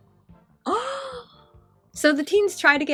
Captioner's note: le gasp